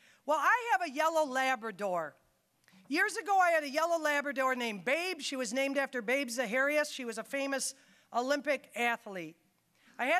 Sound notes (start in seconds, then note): none